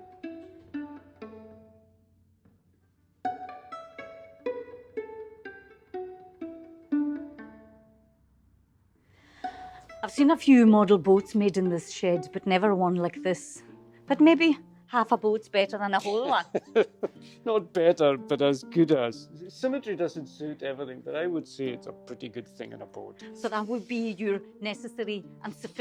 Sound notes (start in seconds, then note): 16.0 laughter